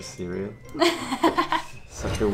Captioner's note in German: lacht